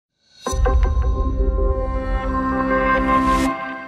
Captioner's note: logo whooshing